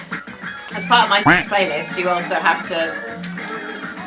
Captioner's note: duck quack